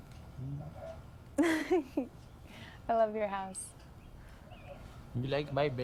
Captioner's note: chuckles